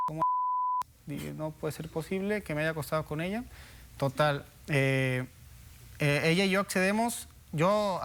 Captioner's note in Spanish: Bip